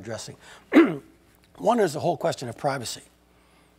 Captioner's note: cough